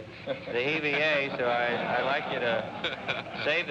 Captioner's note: audience laughs